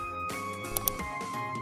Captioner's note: mouse Click